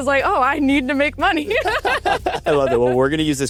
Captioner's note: both laughs